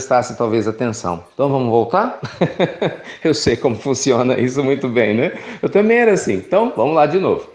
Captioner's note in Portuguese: Risos